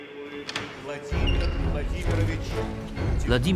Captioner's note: announcement in Russian